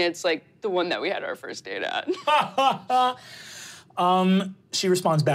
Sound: laughing

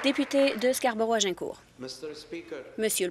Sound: applause

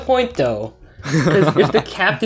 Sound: giggles

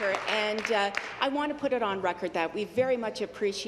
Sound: applause

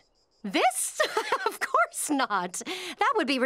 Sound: laughing

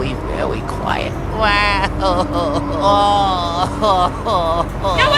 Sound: Luigi complaining

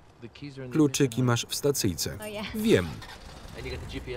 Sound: starts car

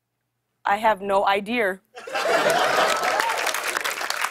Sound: laughter and applause

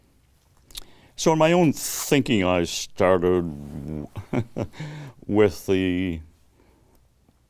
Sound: chuckles

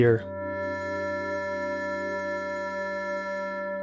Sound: computer Generated Sound

